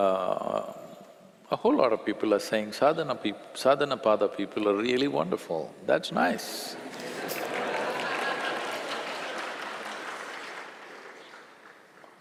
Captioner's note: laughter/Applause